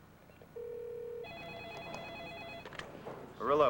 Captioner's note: telephone rings